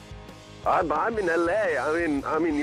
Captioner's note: on phone